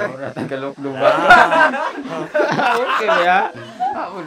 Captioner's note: laughs